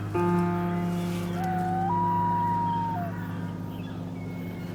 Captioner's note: owl calling